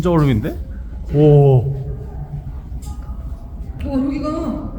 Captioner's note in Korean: 감탄